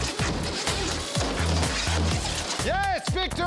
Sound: whirring

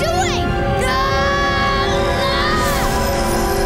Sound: screaming

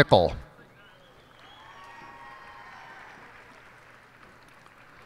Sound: cheers and applause

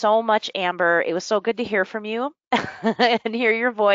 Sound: laughs

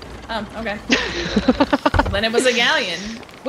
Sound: laugh

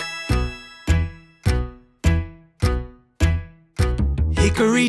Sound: clock ticking

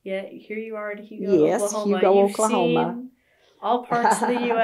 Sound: laughs

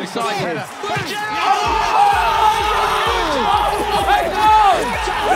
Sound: players shout

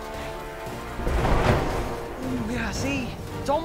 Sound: thunder claps

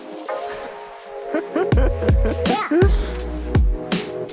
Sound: laughing

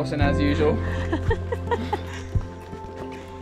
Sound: laughing

